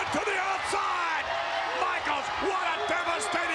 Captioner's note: spectators cheering